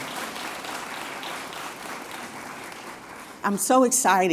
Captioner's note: applause